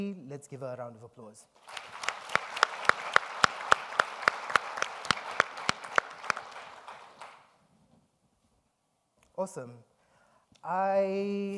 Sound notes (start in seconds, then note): 1.6 all applauding